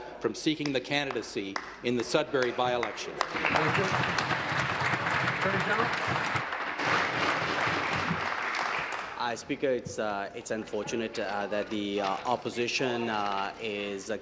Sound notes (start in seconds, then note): 7.0 applause